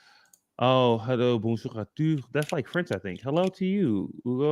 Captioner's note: french